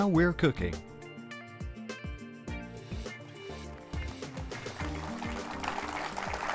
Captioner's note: audience applauding